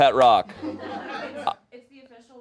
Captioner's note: audience laughing